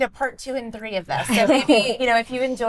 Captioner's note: all laugh